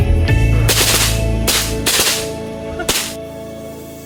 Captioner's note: gun shots fire